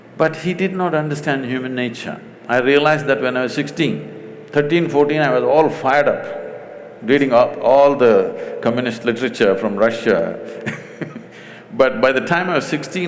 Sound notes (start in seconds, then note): 10.6 laughs